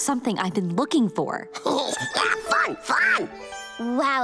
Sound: giggles

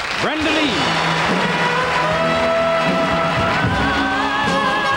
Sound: audience applauding

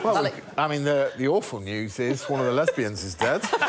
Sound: laughter

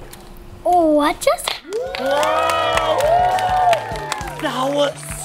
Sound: audience applauding

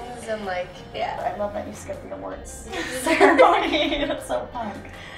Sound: laughter

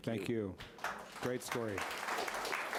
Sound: audience applauding

